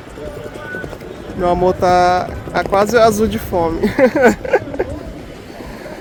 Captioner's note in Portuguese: risadas